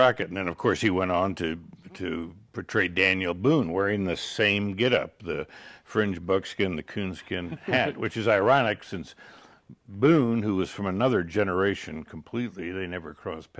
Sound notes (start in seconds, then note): 7.2 laughing